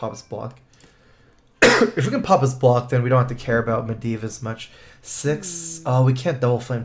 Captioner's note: cough